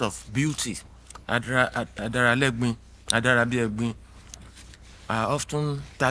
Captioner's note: speaking in foreign language